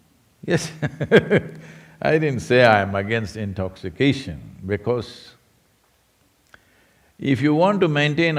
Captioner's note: laughs